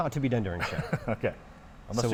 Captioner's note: laughing